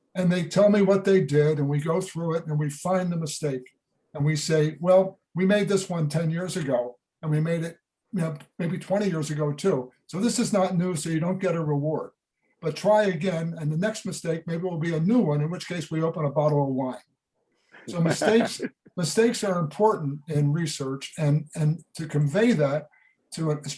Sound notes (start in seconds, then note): 17.8 laughs